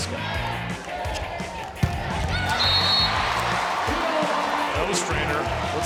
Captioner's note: crowd cheering